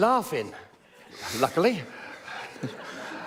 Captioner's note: laughter